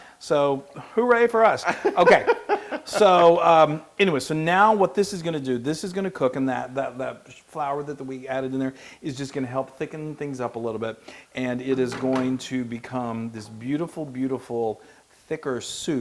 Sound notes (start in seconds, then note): 1.7 laugh